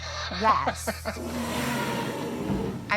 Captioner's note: chuckles; dinosaur roar